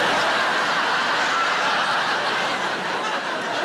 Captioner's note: audience laughs